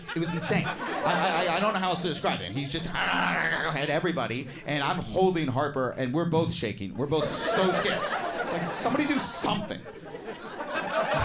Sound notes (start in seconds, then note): 2.8 growls; 7.1 audience laughs